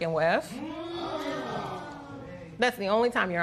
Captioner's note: spectators exclaim